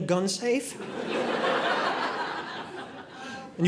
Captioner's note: audience laughing